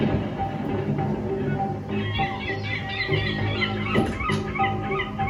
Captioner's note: explosion; birds chirp